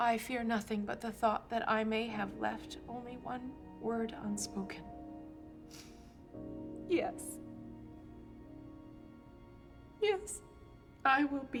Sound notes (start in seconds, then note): 5.6 sniffling; 5.7 sobs